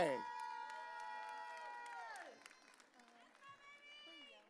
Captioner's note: audience cheering